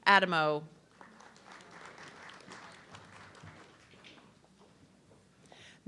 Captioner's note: audience clapping